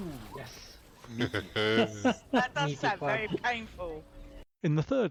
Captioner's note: laughter